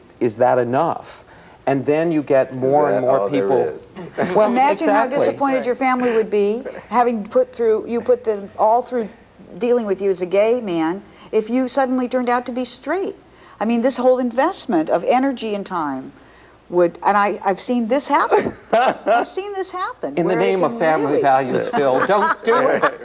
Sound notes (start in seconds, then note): 18.3 laughs